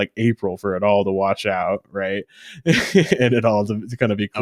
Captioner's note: laughs